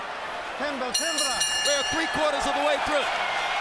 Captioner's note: bell rings